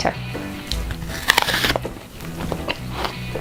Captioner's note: bites in apple; chewing